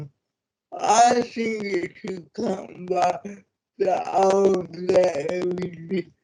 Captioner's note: audio distorts